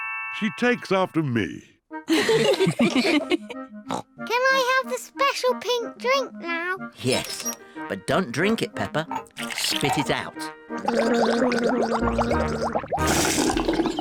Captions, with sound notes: -She takes after me. -(ALL LAUGH) (SNORTS) Can I have the special pink drink now? Yes, but don't drink it, Peppa. Spit it out. (GARGLES)